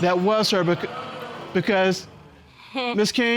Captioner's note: audience exclaims